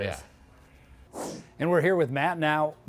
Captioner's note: whoosh sound